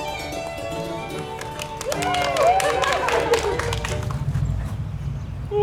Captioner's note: cheering